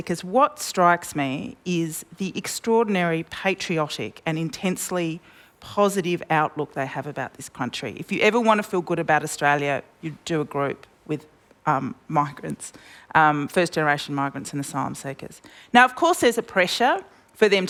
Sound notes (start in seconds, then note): none